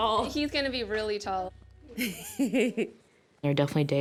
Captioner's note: chuckles